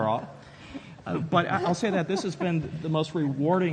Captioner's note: laughs